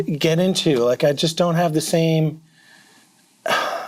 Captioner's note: sighs